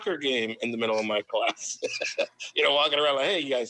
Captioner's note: laughs